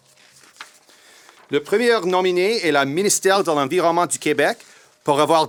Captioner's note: speaks in foreign language